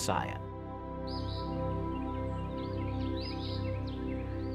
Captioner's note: birds chirping